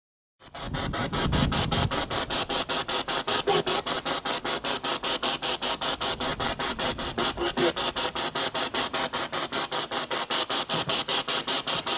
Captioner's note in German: Noise of the spiritbox in the background